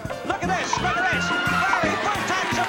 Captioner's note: screams